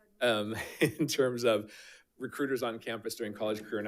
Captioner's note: chuckles